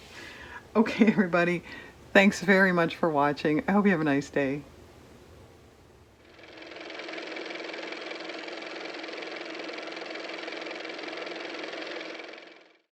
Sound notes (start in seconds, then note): 6.2 car motor